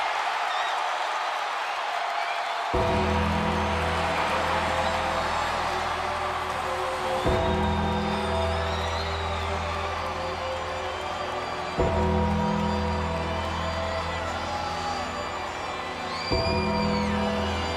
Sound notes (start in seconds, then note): 2.8 ominous music; 3.7 audience cheers; 9.5 audience cheers